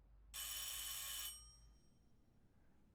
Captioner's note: bell rings